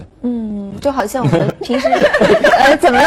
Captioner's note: explode with laughter